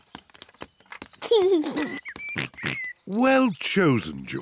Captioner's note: giggles